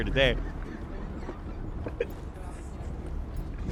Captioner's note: laughs